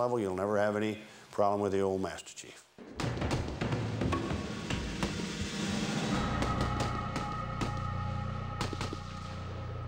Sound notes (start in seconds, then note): 6.4 gunfire